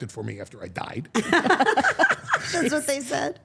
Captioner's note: all laughing